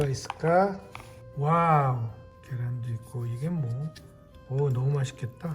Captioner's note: Appa speaking Korean; speaks Korean